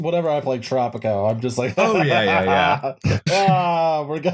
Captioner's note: laughs villainously